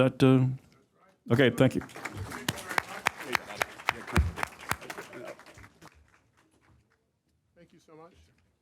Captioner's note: applause